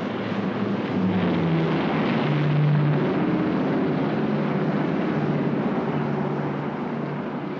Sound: city street sounds; aircraft roars overhead

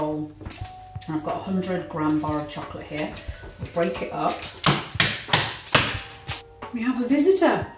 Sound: bangs on the worktop

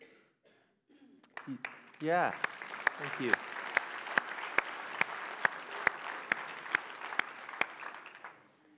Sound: applause; applauding

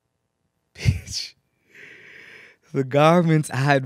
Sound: chuckles

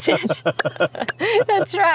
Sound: laughing

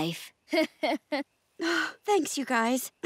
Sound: giggling

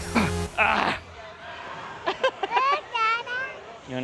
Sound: laughs

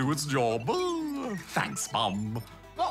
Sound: chuckles

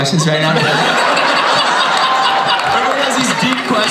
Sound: everybody laughs

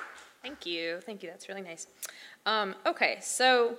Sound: applause

